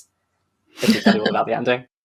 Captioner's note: laughs